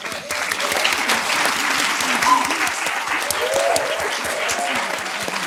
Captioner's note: applause